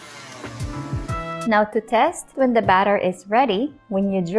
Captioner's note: stand mixer running; mixer thuds